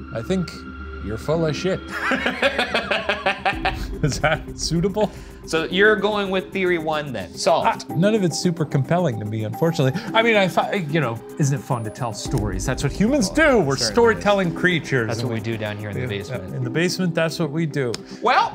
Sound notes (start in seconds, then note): 1.8 laughing